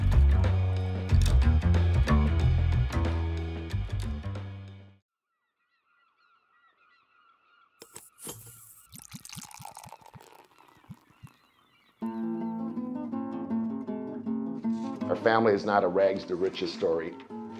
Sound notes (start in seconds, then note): 0.2 mellow jazz music; 7.6 birds cawing; 9.0 spigot clicks; 11.5 liquid pouring; 15.0 gentle upbeat music